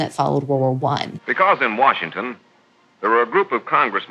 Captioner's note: soundbite of archived recording